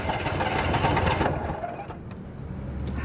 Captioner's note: sputtering continues